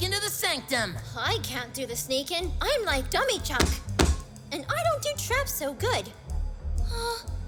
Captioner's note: matter of factly